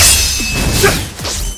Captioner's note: occasional grunts